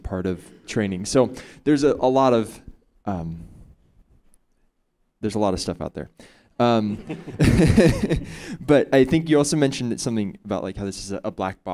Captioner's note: chuckles